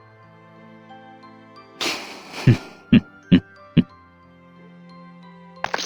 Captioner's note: chuckling